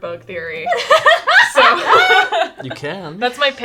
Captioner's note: laughing